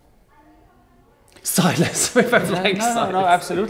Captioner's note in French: Rires